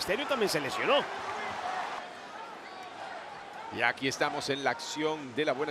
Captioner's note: applause